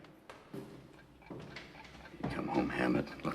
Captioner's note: feet thumping